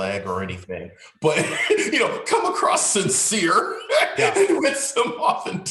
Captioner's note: chuckling